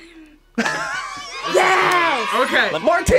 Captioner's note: laughs